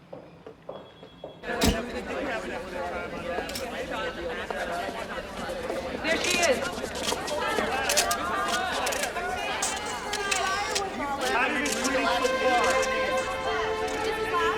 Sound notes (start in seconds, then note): 2.3 chattering; 7.5 cameras clicking; 11.9 tense music; 14.3 chattering